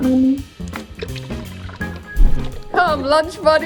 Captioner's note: viscous liquid pours; air whooshes